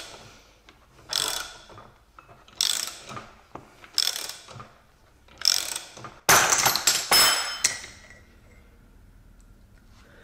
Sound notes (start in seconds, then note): 6.3 bang